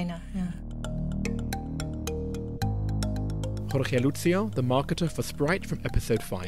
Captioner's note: voiceover